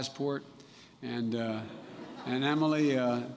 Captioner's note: laughter